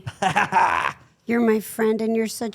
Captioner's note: laughs